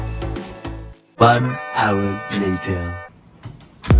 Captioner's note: dance music play; distorted Voice